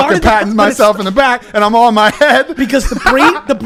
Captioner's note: laughs